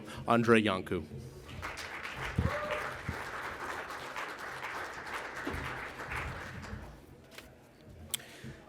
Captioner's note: applause